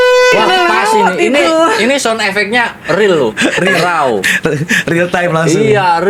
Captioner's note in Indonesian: tertawa